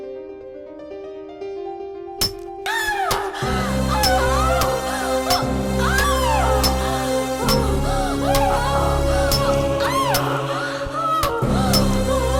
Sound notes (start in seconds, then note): 0.0 piano Plays; 2.6 hammer hits the nail and Vampire cries in agony